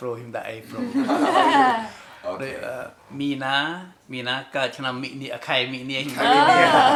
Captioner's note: laughs